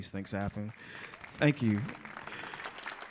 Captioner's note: audience applauds